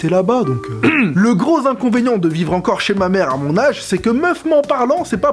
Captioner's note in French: musique triste; raclement de gorge